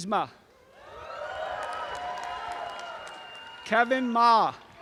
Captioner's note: applause and cheering